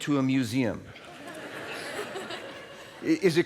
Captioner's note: laughter